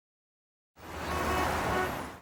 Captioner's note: auto horn blowing